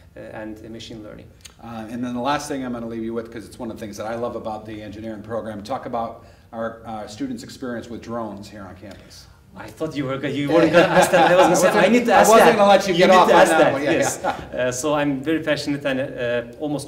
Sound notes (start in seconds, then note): 10.4 laughing